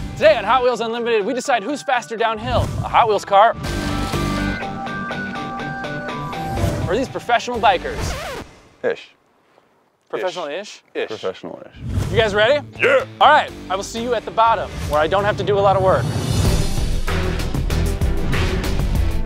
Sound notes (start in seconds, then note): 3.6 upbeat music; 8.1 music screeches to stop; 16.3 dramatic music